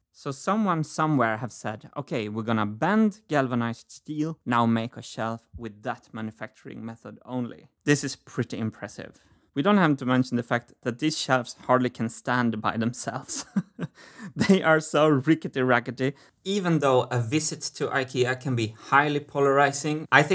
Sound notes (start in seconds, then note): 13.2 chuckles